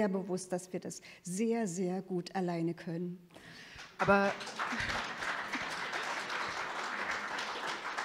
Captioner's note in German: Publikum applaudiert